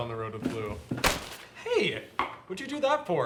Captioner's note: newspaper thuds